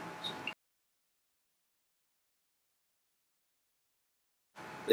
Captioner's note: silence